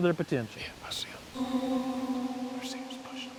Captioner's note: whispering